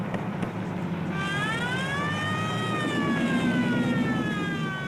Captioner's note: siren wailing